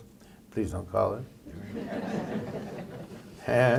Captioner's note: laughter